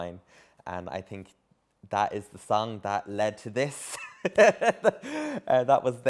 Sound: laughs

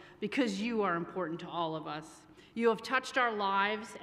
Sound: none

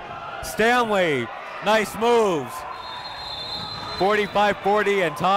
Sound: whistle blows

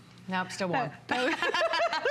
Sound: laughter

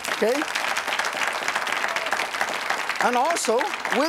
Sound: audience applauds

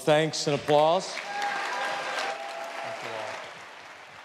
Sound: audience cheers

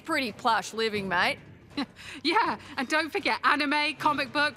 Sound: chuckling

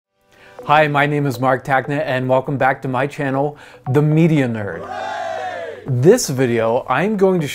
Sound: group cheer

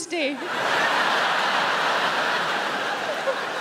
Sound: crowd laughing

